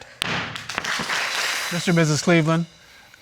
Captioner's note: audience applauds